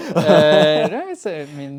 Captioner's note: both laughing